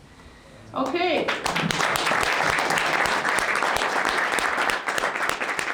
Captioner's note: applause